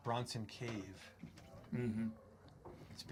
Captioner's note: Martha chuckles